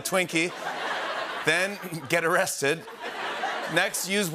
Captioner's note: laughter